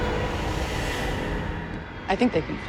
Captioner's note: whoosh